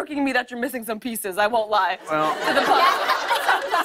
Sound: laughter

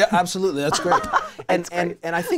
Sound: laughing

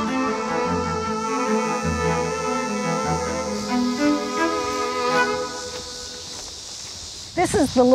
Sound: insects buzzing and chirping

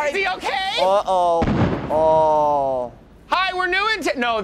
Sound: explosions

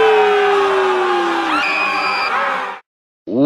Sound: screaming Continues

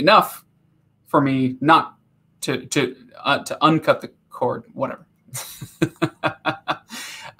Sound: laughing

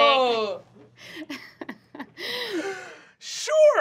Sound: Fig laughing

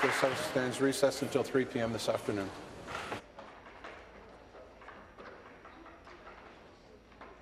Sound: applause

